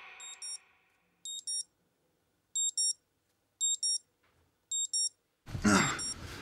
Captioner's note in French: bip de réveil